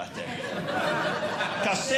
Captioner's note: audience Laughing